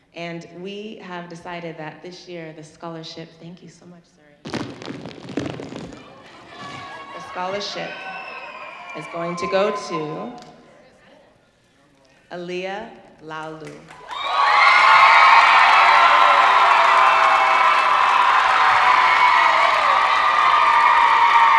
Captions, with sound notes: And we have decided that this year, the scholarship, thank you so much, Zuri. (plastic wrapping crinkling loudly) The scholarship is going to go to Aaliah Laulu. (audience cheering)